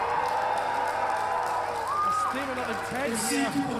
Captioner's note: crowd applauding; crowd cheering